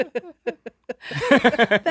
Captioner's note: laughing